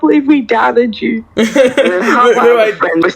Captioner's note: light Laughing